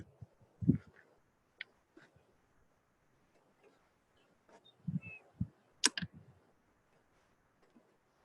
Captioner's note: humming